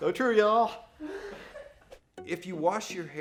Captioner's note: laughing